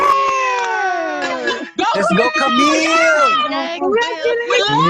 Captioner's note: cheering